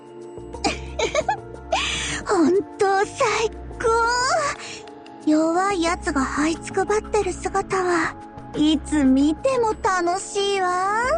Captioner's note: giggle giggle